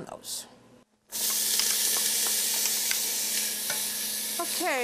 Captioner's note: onions sizzle